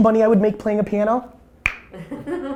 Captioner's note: clicks tongue; group laughter